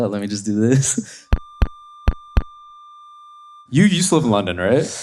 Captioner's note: feedback ringing